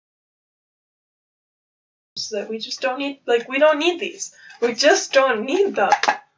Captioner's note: bottle hits tripod